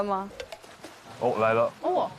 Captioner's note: hearing footsteps